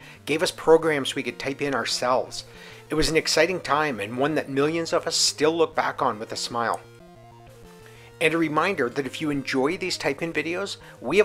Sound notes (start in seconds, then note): none